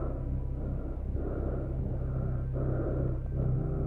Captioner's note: breathing hard continues